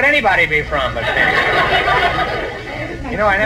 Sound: audience laughs

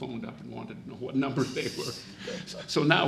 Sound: laughs

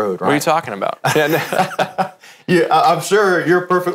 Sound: laughs

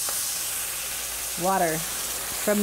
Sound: oil Sizzles

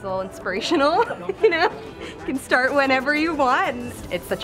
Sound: chuckles

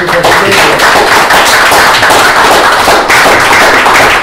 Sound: applause

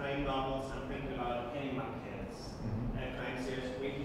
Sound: speaking foreign language

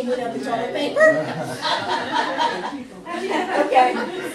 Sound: class laughs

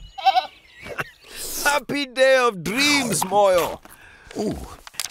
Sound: bleating; laughing

